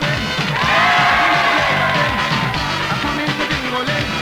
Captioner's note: crowd cheering